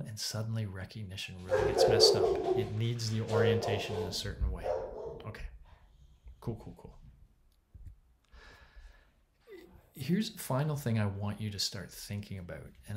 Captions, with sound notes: and suddenly recognition really gets messed up. (dog barking) It needs the orientation in a certain way. Okay, cool, cool, cool. Here's the final thing I want you to start thinking about,